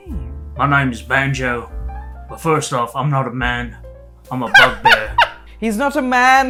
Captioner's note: laughter